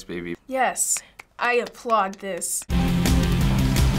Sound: clapping; industrial intro

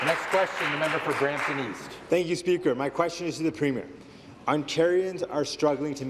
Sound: applause

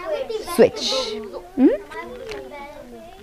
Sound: students chattering

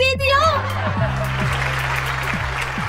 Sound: whisper

